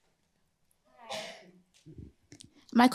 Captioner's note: off mic